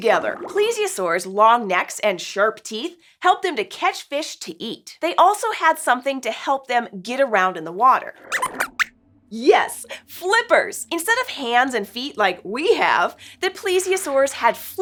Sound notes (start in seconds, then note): 8.1 squeaks squeaks